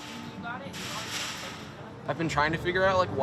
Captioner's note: gate banging drowns out speaker